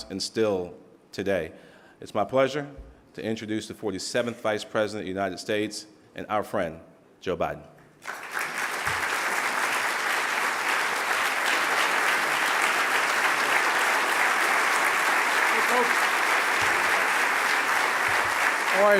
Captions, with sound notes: and still today. Its my pleasure to introduce the 47th Vice President of the United States and our friend, Joe Biden. (applause) - Hey folks.